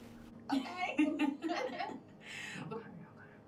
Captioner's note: laughing